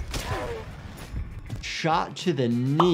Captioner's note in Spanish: explosión de disparos